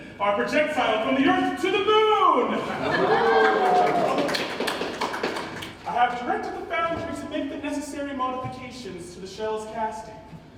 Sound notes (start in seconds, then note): 2.9 ensemble applauds